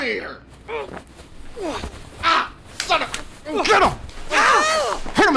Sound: grunts and shouts; yelling

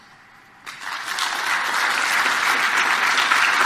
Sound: applause

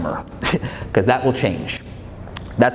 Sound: laughs

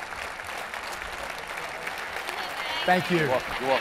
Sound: applause

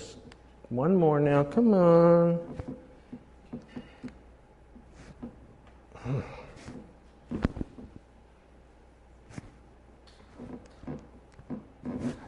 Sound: laughing

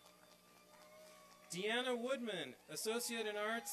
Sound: applause

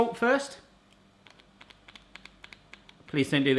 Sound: button clicking

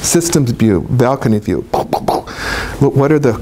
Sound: pow noises

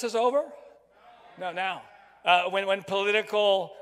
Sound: crowd

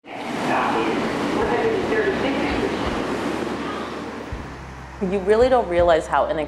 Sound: train rumbling; announcer chattering

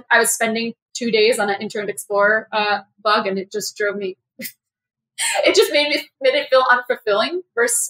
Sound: laugh

